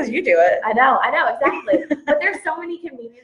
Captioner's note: laughs